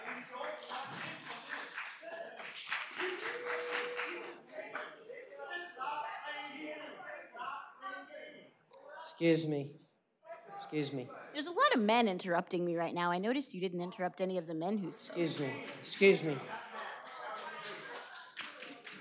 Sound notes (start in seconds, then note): 3.4 applause